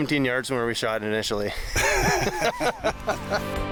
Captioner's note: laughs